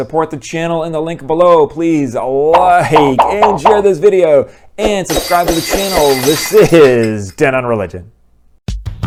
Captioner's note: glass breaking